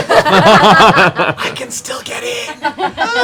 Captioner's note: whispers